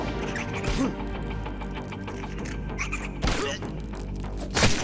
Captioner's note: character grunting; creature skittering; attacks splatting